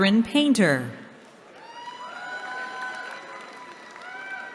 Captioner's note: cheering